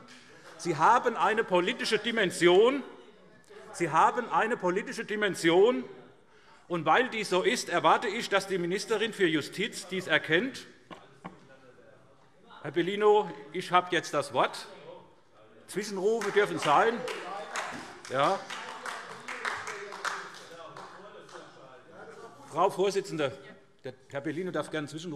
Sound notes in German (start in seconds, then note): 16.1 Vereinzelter Beifall SPD; 18.3 Weitere Zurufe